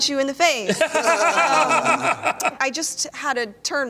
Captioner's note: laughter